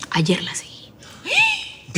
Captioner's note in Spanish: Grito ahogado